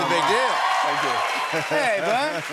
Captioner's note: cheers and applause